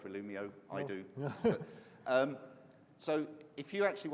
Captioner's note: laughs